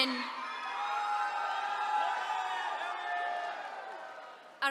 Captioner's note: attendees cheering